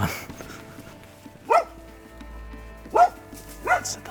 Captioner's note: A dog barking